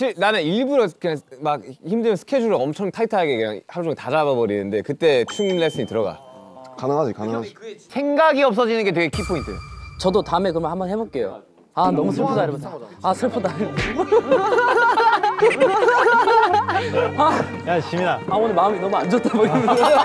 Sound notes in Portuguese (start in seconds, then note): 15.4 Kekeke